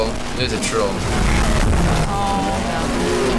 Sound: loud explosions

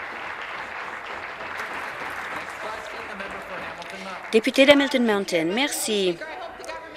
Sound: applause

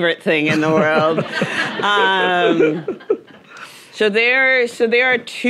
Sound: audience laughing

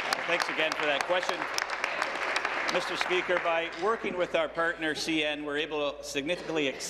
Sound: applause

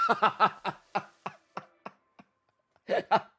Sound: laughs

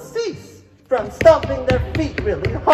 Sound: feet stomping; stomping continues

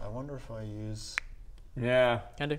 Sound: finger snap

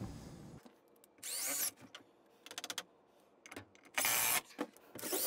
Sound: drill whirs

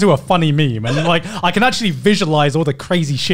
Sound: laugh

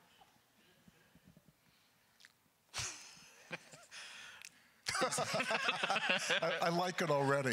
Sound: Mamet laughs; laughing as he begins to read

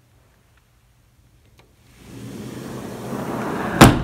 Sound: door Slides Shut

